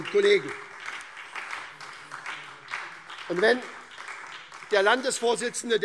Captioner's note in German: Beifall SPD, CDU, BÜNDNIS 90/DIE GRÜNEN, Freie Demokraten und DIE LINKE